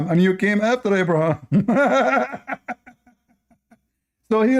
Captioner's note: Ketawa